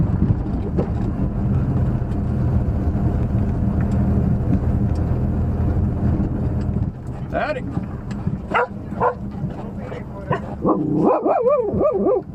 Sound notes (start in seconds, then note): 8.2 dogs bark